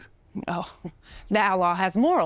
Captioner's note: laughing